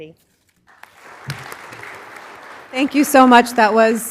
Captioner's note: applause